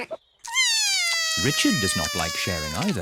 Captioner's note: giggles; cries